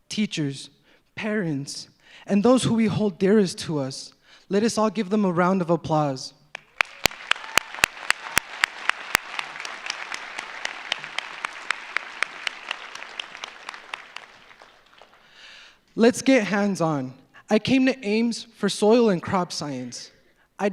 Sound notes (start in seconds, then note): 7.2 claps; 7.7 audience applauds